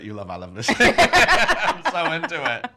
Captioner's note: laughing